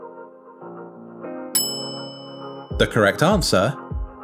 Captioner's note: bell rings